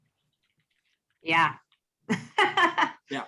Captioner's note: laughs